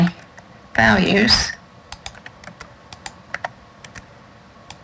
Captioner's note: keyboard typing